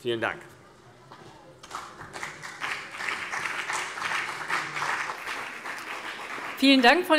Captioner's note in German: Beifall CDU und BÜNDNIS 90/DIE GRÜNEN